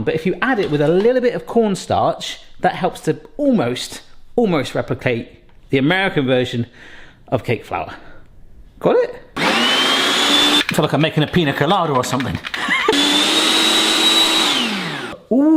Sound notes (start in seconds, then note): 9.4 blender whizzing; 12.4 blender whizzing; 12.4 laughs